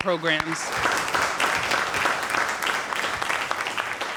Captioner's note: applauding